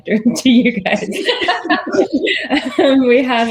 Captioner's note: all laughing